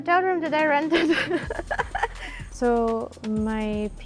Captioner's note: giggles